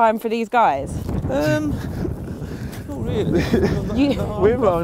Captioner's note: laughing